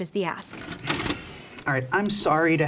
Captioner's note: videotape plays